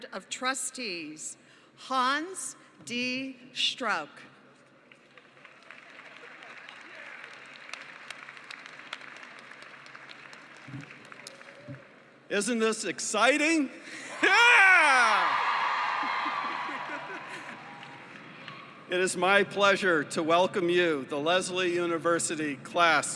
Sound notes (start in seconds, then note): 4.9 applause; 14.0 cheering